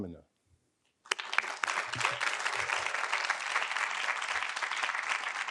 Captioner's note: audience applauding